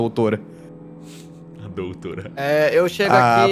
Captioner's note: laughs